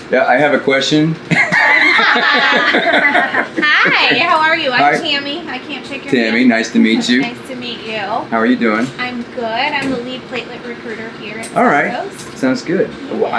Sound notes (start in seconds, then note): 1.3 laughing